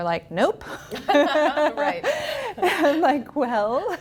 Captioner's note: laughs